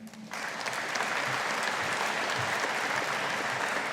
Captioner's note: audience applauding